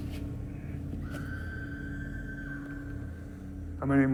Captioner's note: women screaming